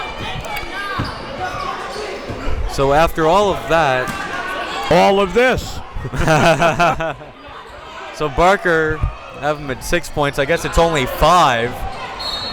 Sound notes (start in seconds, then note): 6.0 laughing